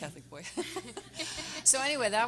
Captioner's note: everyone laughing